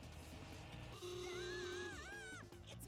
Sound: yells

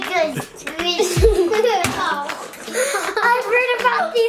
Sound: laughing

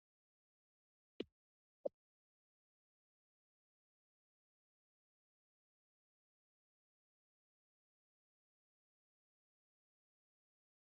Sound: silence

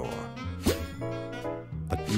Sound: pop

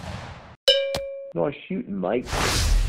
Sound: ping

